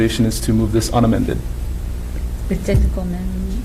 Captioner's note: woman mumbling